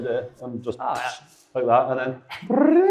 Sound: mouth explosion noise

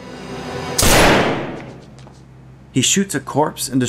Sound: gunshot

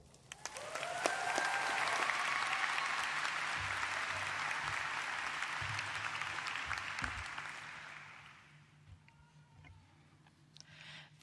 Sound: applause

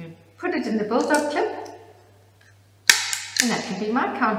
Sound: clip snaps closed

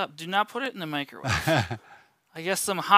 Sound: chuckles

